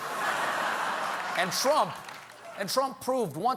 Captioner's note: laughter